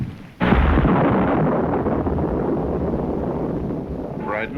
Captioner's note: thunder roaring